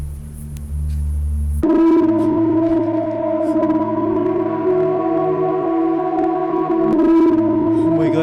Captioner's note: distorted echoing noise